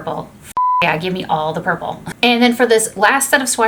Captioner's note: beep